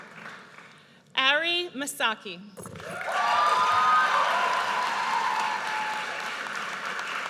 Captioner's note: audience cheers